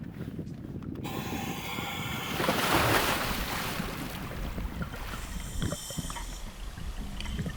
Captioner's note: respirator whirring; splash